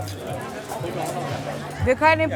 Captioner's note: babble of voices